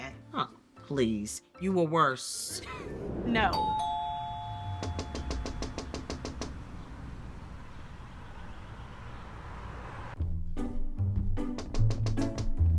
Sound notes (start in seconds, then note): 3.5 doorbell rings; 4.8 Bree knocking; 10.2 playful music